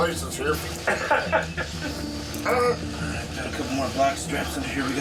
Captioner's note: laughing